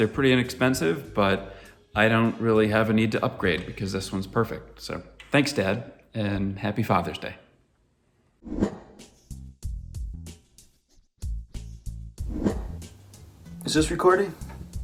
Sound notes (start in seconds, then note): 8.5 air whooshing; 9.4 soft pop music